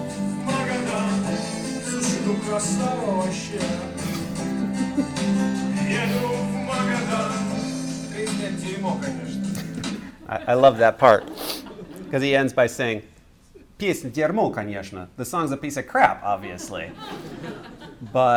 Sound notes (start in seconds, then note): 13.6 speaking russian; 16.5 laughter